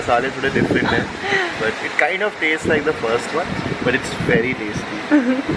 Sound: giggles

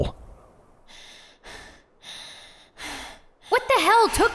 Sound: panting

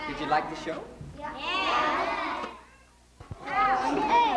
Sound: all chattering

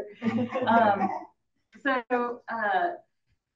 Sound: audience laughing

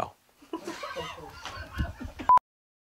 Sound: laughter

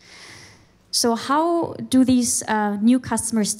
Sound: none

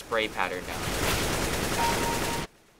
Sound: firing; kill chime

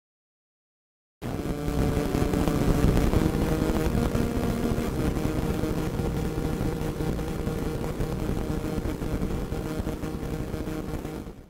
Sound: radio static noise

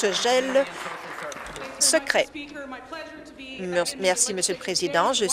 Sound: applause

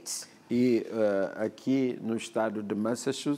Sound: speaking portuguese

